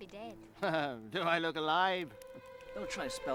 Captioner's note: laughs